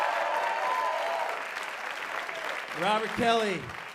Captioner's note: applause